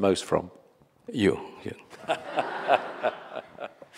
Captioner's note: laughing